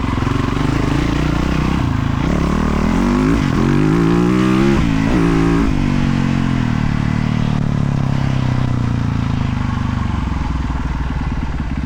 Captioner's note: engine roaring